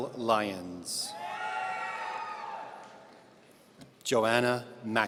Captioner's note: audience cheering